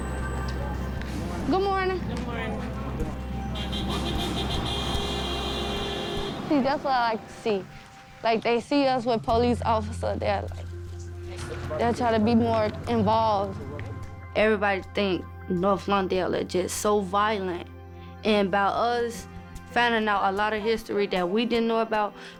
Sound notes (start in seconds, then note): 7.7 car horn honks